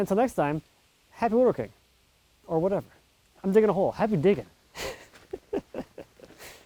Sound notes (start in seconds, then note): 4.7 laughing